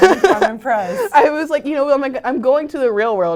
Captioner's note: laugh